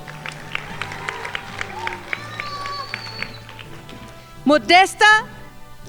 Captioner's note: crowd applauding